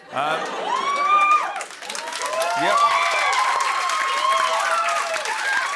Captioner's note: cheering and applause